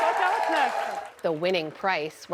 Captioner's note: cheering